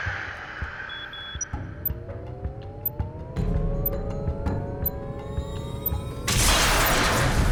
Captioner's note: beeping; electrical Shortage